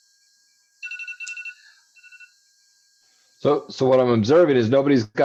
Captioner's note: phone rings